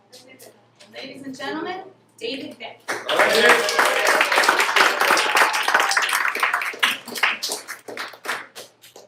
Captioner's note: applause